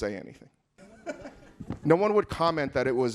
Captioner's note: audience laughing